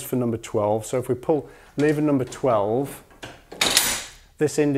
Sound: sound of lever

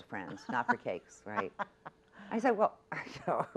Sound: laughs

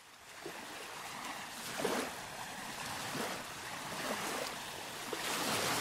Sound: sounds of waves

